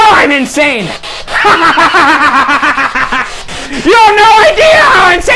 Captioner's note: cackling